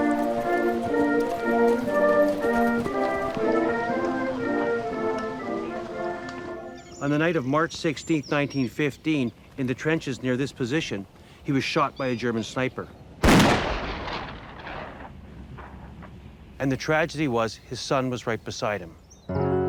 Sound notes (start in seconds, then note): 13.2 rifle fires; 19.3 somber music